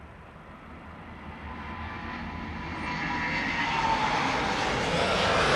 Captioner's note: plane taking off